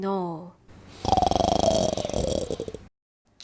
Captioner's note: snoring